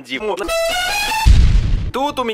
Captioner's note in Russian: Взрыв